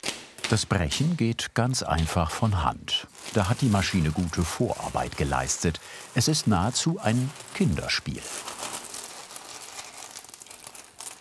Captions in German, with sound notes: Das Brechen geht ganz einfach von Hand, da hat die Maschine gute Vorarbeit geleistet. Es ist nahezu ein Kinderspiel. (Knistern)